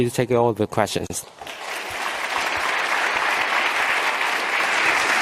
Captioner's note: clapping